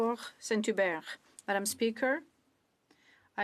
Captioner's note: speaking French